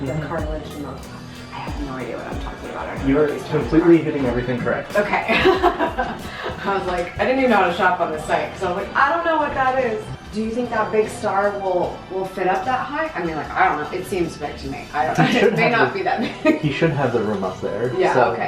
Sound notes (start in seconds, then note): 5.2 laughs